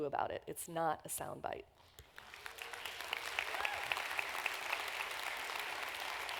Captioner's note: applause